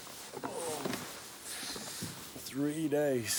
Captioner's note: Andy groans